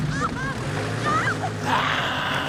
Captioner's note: Eddy screaming; engine revving; Eddy growling